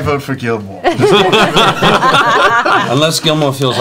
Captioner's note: laughter